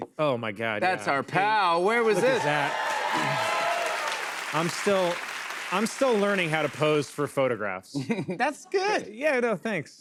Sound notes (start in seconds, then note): 1.9 cheers and applause